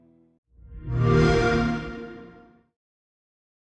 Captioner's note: xbox sound